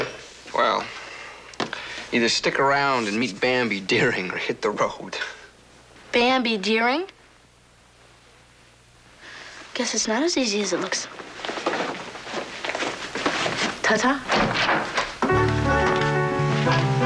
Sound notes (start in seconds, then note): none